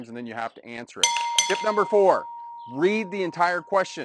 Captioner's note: bell rings